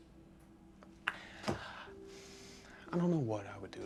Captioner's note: Ben sighs